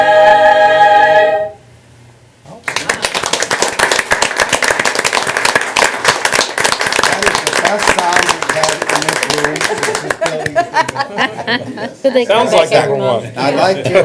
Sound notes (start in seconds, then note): 2.1 complimentary chatter; 2.6 applause